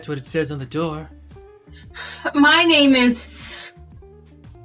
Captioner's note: sighs